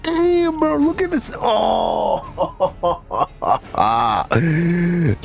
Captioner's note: weird ahh laughing noise